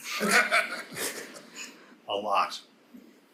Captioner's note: panelists laughing